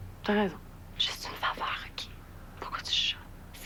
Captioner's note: Chuchotant